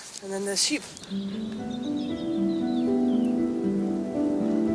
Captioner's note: birds, wind noise, sheep